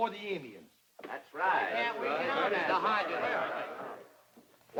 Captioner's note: men murmur